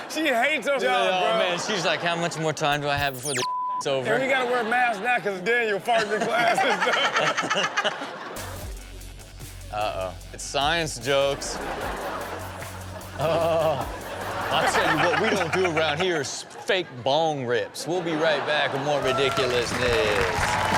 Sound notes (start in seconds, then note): 2.7 beep; 5.9 everyone laughing; 8.7 upbeat music; 11.6 audience laughing